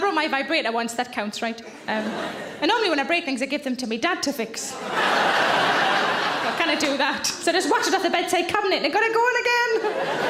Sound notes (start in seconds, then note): 4.7 audience laughs; 9.8 audience laughs